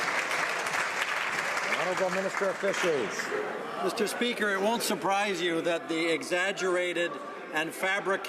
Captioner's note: some Applause